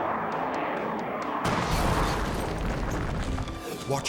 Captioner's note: jet roaring; jet crashing; flames rumbling